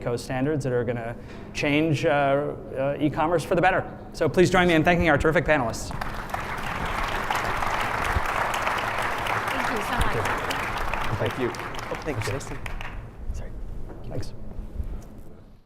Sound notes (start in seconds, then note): 5.8 applause